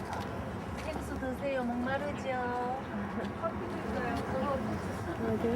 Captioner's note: speaking in Korean